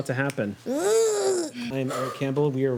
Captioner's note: groans